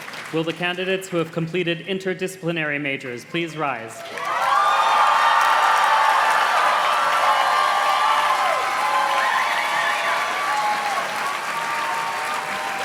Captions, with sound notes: Will the candidates who have completed interdisciplinary majors please rise? (audience cheers and claps)